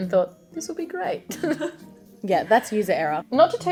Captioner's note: giggles